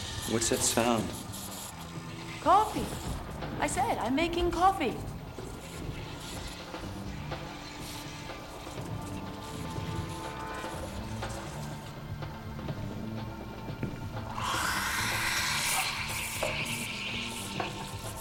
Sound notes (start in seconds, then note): 14.6 whooshing